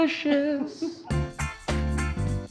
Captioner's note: laughs